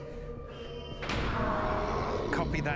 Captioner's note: alarm blaring